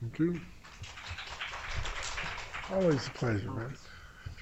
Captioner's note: applause